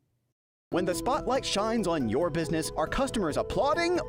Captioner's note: voiceover